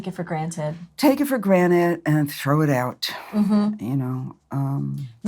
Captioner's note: sighs